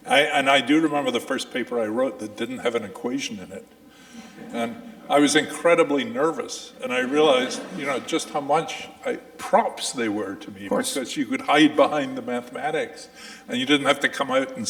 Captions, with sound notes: And I do remember the first paper I wrote that didn't have an equation in it, (audience chuckling) I was incredibly nervous, (audience laughing) and I realized, you know, just how much props they were to me. - Of course. - Because you could hide behind the mathematics and you didn't have to come out